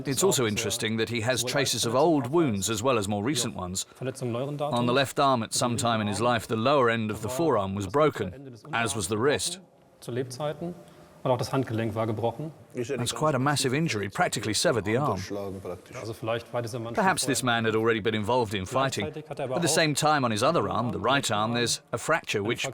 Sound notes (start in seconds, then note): 12.9 in German; 15.9 speaking German